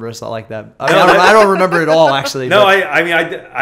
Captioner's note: laughter